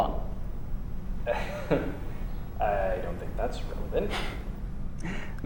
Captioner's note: uncomfortable laugh